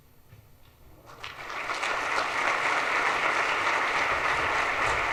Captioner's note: audience applauds